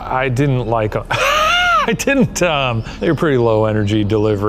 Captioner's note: laughing